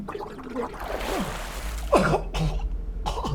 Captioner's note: water splashing; Jimmy coughing